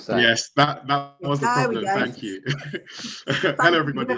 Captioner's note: chuckles